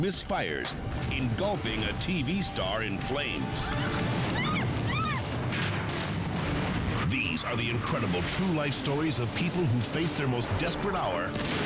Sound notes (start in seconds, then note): 0.3 explosion booms; 3.6 screaming; 5.1 dramatic music